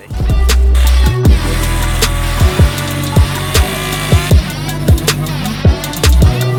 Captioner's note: upbeat music; chainsaw running